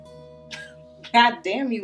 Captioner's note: laughing